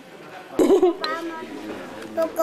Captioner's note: laughing